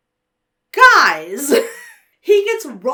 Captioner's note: laughs